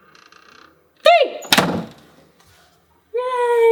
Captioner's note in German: Tür schlägt zu